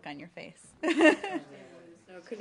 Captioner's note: laughter